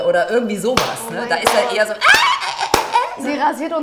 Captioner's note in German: kreischt